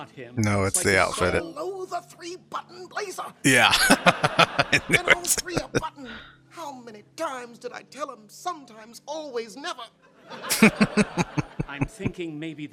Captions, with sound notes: No, it's the outfit. [Laughing] Yeah. I knew it. [Chuckling]